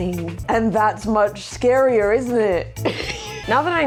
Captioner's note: laughs